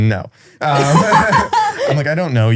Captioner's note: laughing